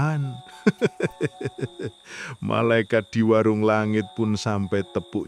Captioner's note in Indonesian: tertawa